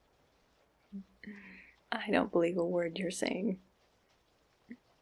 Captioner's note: scoffs